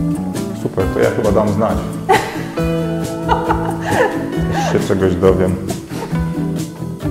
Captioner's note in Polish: śmiech